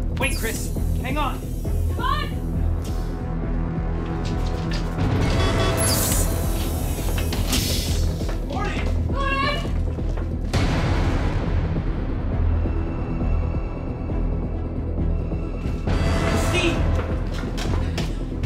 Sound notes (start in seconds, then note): 3.7 suspenseful music; 5.3 keypad beeps; 5.8 door hissing; 10.4 suspenseful music continues